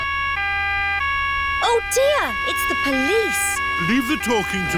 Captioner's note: siren wailing